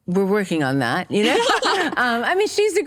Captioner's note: laughter